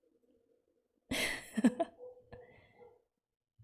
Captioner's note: laughs